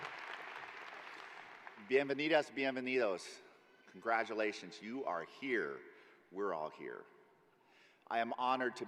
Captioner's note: applause